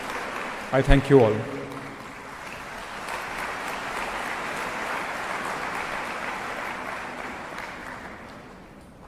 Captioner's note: applause